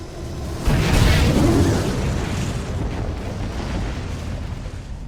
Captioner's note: meteors exploding